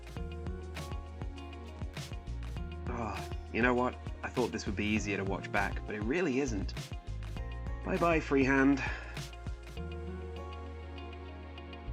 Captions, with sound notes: Ahh, you know what? I thought this would be easier to watch back but it really isn't. Bye bye freehand! [sigh]